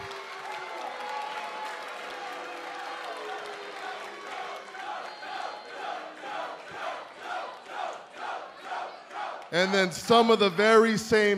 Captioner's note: cheers and boos